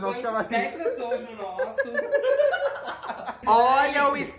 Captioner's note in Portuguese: risos